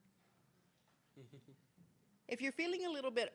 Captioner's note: interpreter laughing